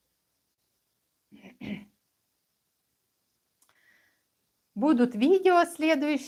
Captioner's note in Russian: откашливается